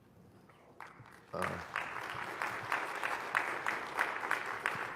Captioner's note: applause